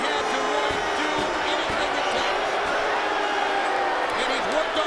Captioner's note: audience boos